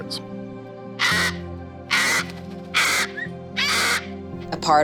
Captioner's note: parrot squawks